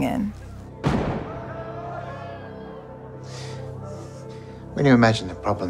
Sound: gun bangs; people screaming

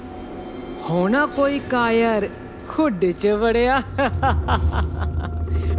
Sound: laughing again

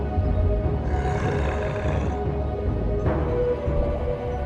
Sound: כריש נוהם

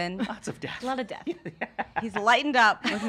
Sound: laughing

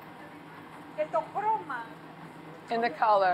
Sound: speaking Greek

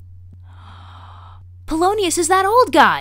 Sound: gasp!

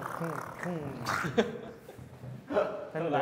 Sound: ending with gargling

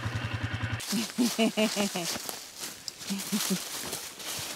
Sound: laughing

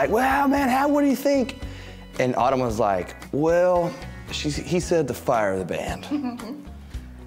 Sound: mom chuckles

